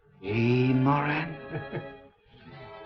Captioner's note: Moran laughs